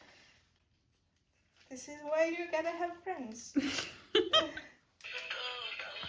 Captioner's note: off screen laughter